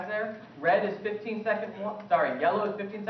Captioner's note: off-mic question